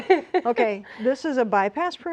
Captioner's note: laughing